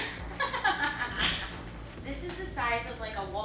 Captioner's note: laughing